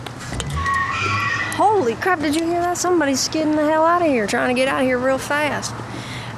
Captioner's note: car skids